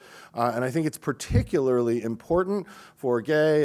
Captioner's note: none